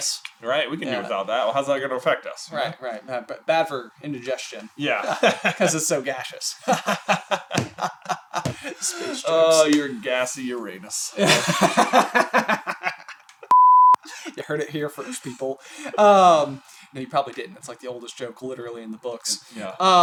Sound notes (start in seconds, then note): 6.6 laughs joyfully; 11.2 12-year old boy laughter